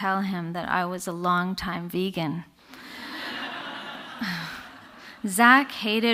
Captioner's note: audience laughter